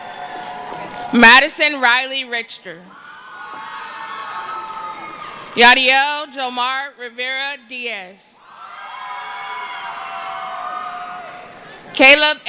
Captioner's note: cheering and screaming